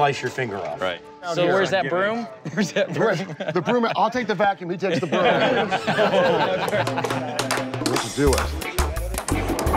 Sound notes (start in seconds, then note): 4.8 laughter